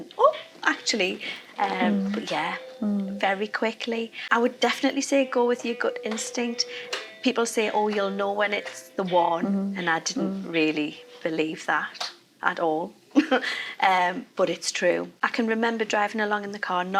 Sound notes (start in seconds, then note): 12.4 chuckling